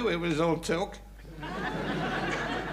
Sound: audience laughing

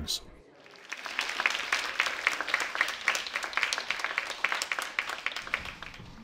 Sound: clapping

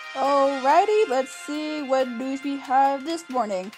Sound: none

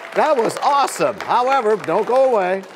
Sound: cheers and applause

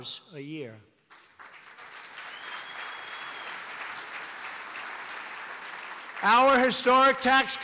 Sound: applause

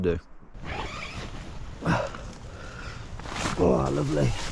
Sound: tent zips

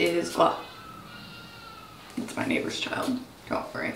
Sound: baby crying

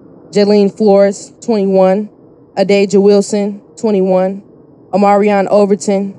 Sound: none

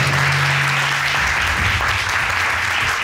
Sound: audience applauding

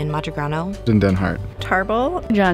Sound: voiceover

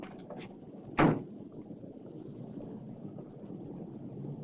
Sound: car door slams

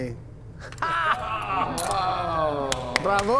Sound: all laughing; clapping

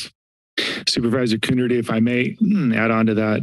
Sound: clear of the throat

